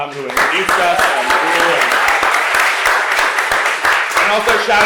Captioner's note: applause